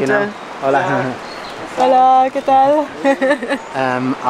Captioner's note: in Spanish